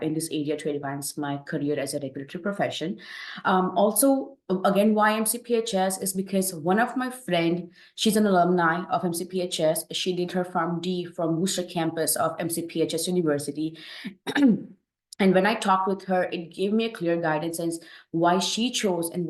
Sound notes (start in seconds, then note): 14.2 clears throat